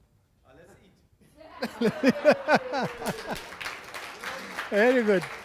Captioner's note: audience applause